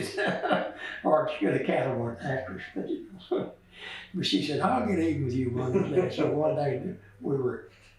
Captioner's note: laughs